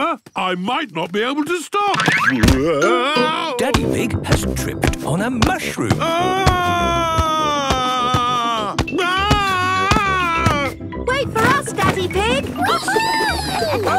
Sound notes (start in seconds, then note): 5.9 shouting